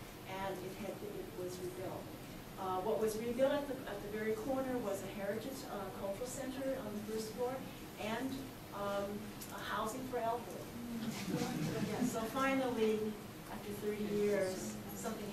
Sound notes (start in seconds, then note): 11.0 audience laughs